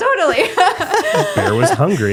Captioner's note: both laughing